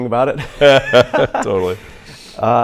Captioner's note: both laugh